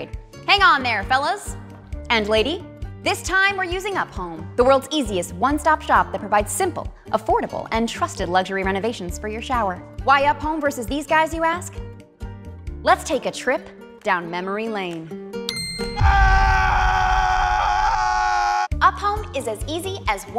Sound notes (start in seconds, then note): 16.0 pained screams